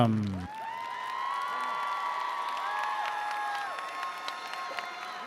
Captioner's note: attendees applauding